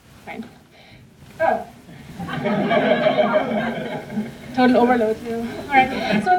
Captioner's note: laughter